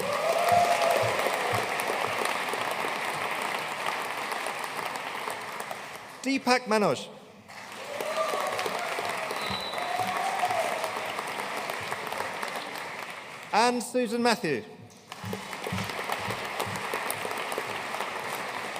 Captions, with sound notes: (AUDIENCE CHEERING AND APPLAUDING) Deepak Manoj. (AUDIENCE CHEERING AND APPLAUDING) Ann Susan Mathew. (AUDIENCE APPLAUDING)